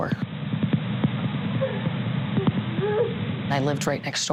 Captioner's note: crying